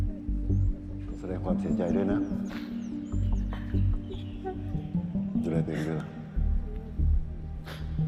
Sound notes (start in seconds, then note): 3.3 crying